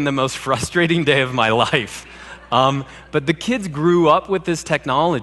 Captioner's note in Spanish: Risas